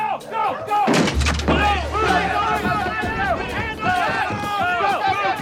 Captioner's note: police yelling